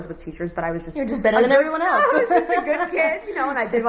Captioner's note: laughs